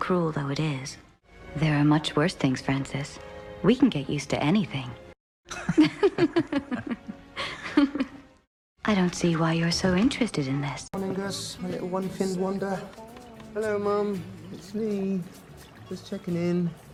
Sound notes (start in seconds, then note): 5.6 laughing